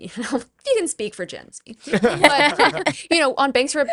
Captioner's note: laughs